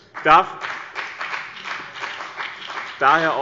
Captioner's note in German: Beifall bei dem BÜNDNIS 90/ DIE GRÜNEN